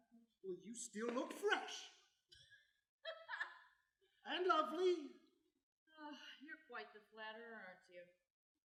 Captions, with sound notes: Well, you still look fresh. [incredulous laughter] And lovely! -Ah, you're quite the flatterer, aren't you?